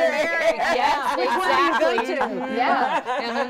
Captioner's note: laughs